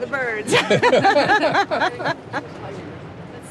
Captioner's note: both laugh